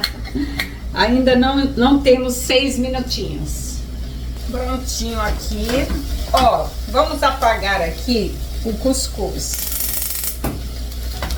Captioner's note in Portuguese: risos